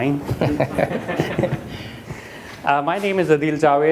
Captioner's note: audience laughing